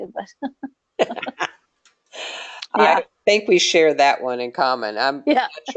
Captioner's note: laughing